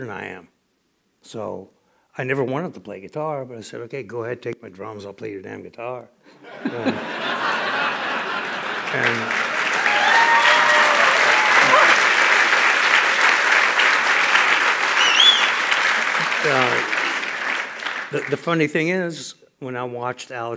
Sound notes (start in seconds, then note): 6.3 laughter; 7.9 cheers and applause